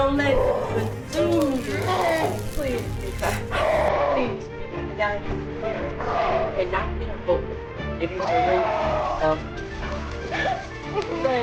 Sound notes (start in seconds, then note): 2.6 Bethany growling